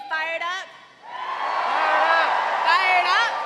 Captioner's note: cheers and applause